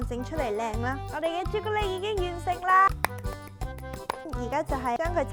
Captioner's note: claps